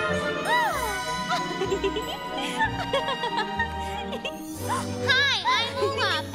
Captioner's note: Anna and Elsa laughing